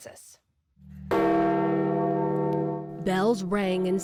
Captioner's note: bells ringing